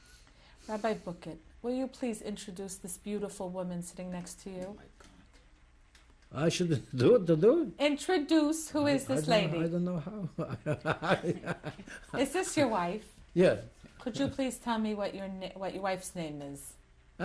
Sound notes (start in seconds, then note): 10.3 laughter